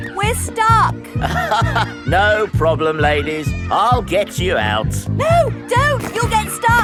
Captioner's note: chuckles